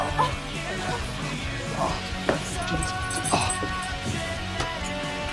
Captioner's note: exclamations